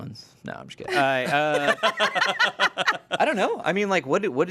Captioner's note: everyone laughs